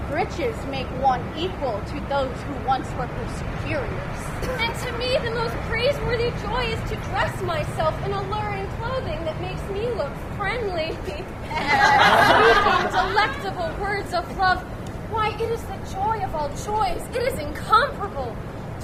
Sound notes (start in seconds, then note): 11.4 laughter